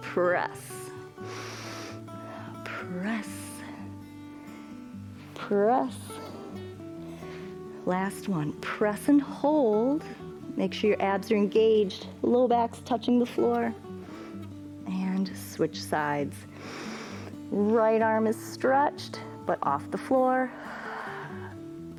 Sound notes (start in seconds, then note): 16.5 inhales; 21.2 exhales